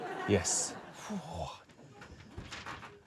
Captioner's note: exclaims